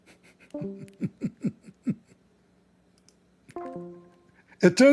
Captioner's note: Ketawa